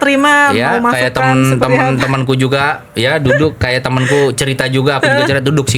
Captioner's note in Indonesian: tertawa